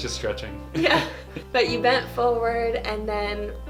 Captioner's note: laughs